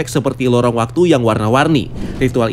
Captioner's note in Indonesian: suara transisi